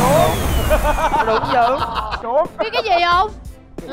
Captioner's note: laughing